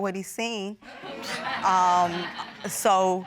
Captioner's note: all laugh